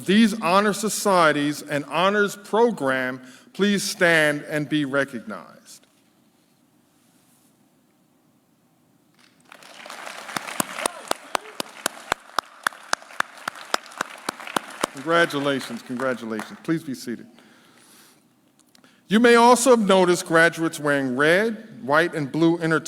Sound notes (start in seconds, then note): 9.2 claps